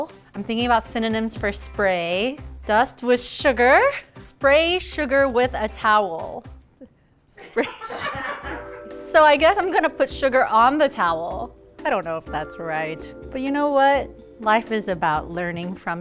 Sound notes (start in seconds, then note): 7.4 laughing